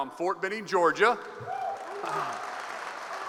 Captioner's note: applause